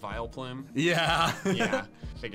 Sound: laughs

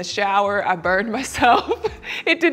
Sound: chuckles

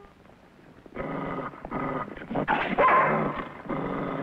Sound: Rebel growling

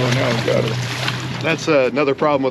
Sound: fish splashing

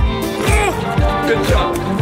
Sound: player groans

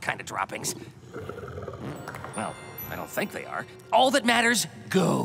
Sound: farts

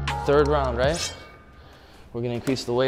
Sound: clanking

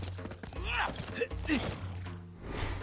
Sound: grunting

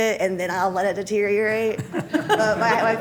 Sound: laughter

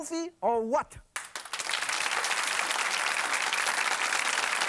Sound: audience applauds

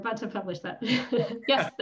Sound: laughter

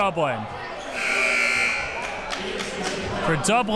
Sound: buzzer sounds

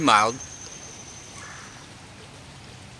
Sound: woodpecker calling

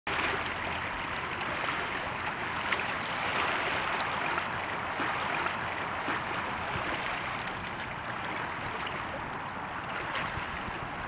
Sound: water running over smooth rocks. wind humming in the background

